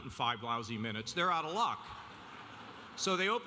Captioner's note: audience laughing